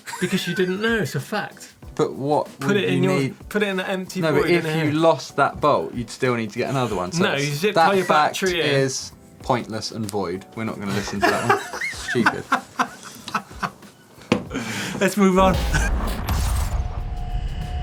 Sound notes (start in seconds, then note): 0.0 laughter; 11.1 raucous laughter